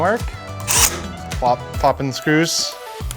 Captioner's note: drill whirs